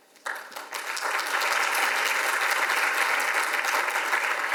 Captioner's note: audience applauds